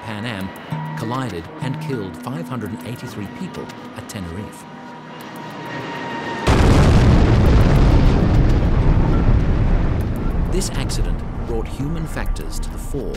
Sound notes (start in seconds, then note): 6.4 crash and explosion